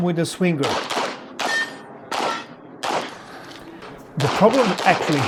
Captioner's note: gunshots banging